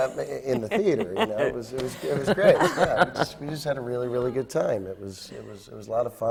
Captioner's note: laughs